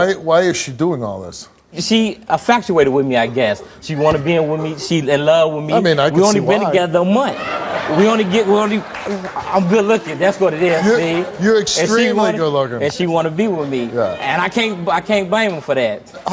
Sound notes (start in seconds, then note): 7.2 audience laughs